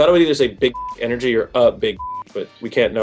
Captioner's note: beep